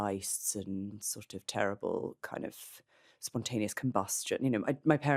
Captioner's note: none